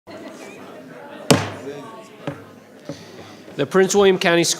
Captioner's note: banging